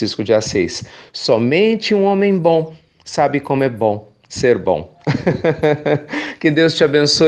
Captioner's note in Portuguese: risos